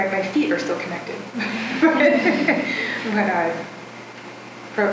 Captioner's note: laughing